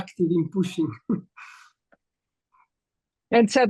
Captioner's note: chuckles